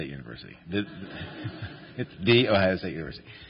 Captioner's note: laughter